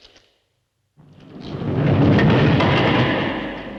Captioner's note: door drops with a rumble